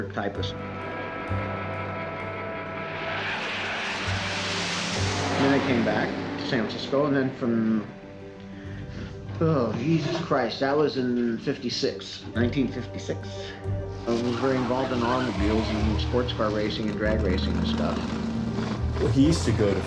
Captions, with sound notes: because I didn't feel like being a clerk typist. [planes whir] Then I came back to San Francisco and then from... oh, Jesus Christ, that was in '56. 1956. And I was very involved in automobiles and sports car racing and drag racing and stuff.